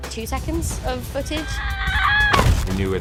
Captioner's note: screaming